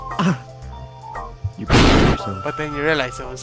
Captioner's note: Lightning